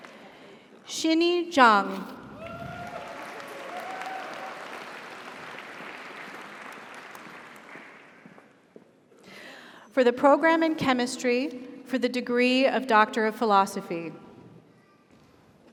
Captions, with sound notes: - Congratulations. - Xinny Zhang. (audience applauds) (audience cheers) - Congratulations. - For the Program in Chemistry for the Degree of Doctor of Philosophy.